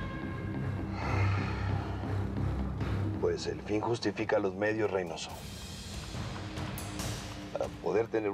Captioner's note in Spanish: exhala